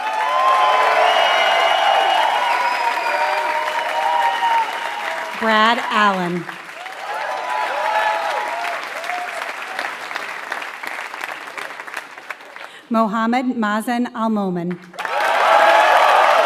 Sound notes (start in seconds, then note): 0.0 applause